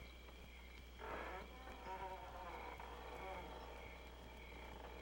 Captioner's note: gate creaking